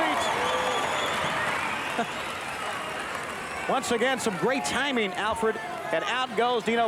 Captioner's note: applause